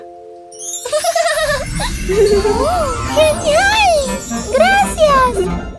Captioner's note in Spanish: Risas